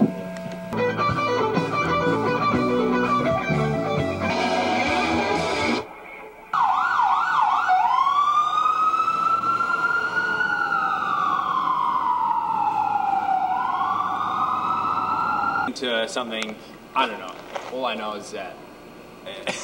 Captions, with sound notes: (guitar riffs) (police sirens) - Into a something. I don't know. All I know is that...